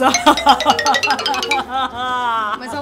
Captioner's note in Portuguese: risadas